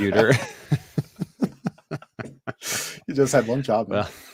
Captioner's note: laughter